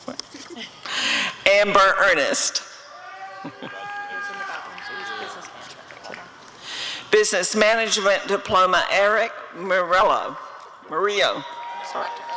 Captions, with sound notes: Amber Earnest [audience cheering] Business Management Diploma— Erick Murillo [applause and cheering]